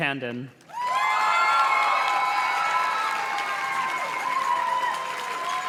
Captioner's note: audience cheers and claps